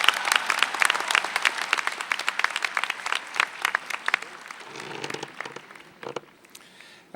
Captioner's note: applause